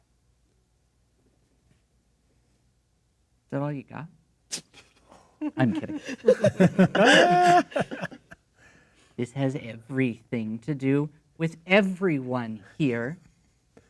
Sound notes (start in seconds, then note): 5.4 laughing; 5.4 players laughing